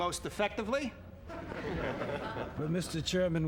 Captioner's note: chuckling